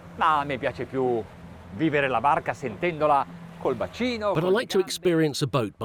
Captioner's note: speaking foreign language